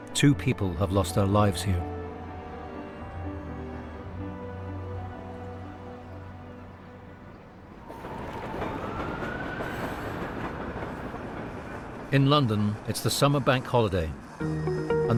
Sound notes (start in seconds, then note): 2.8 tense music continues; 7.4 train clacking; 7.8 siren blaring